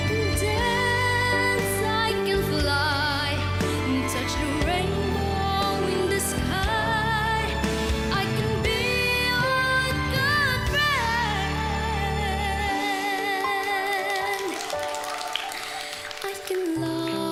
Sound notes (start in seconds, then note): 0.2 singing continues; 12.9 audience applauds